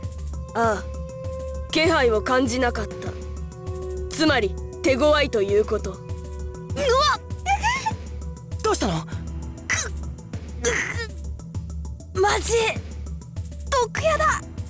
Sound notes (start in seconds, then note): 7.0 pained groan; 7.5 pained wince; 10.6 pained groans